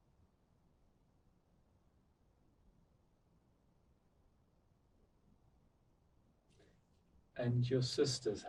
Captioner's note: pauses 8 seconds